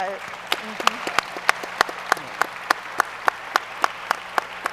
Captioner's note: audience applauds